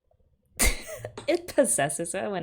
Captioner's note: laughs